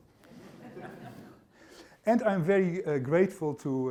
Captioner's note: laughter